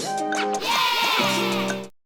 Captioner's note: children cheering